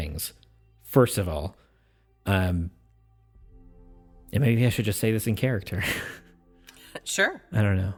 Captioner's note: chuckles